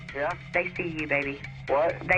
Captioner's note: on phone